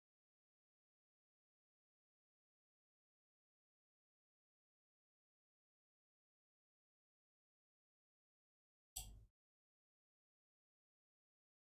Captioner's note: blank Audio